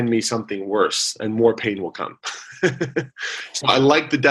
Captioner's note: laughs